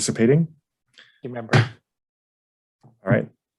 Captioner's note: gavel bangs